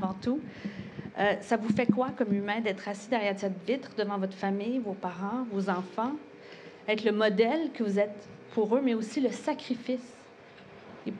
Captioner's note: speaking in native tongue